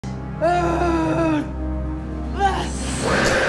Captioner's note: Faye screaming; snake hissing